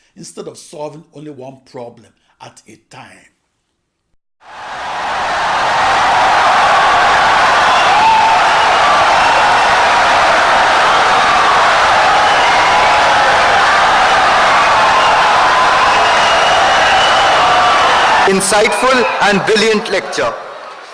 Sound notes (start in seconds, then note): 4.2 wild applause and cheering for 17 seconds